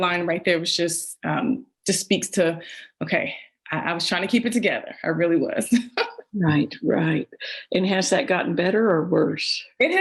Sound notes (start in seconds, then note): 6.3 laughs